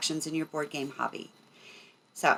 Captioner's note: none